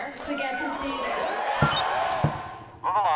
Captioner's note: cheering and applause